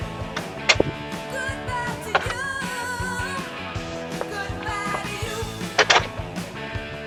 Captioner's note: door closes; door opens; door closes